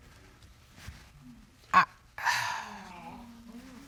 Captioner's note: sighs